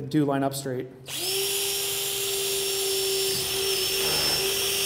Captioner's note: drill buzzing